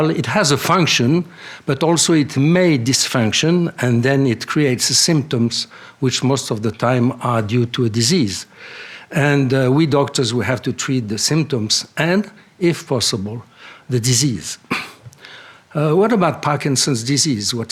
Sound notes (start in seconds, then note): 14.6 clears throat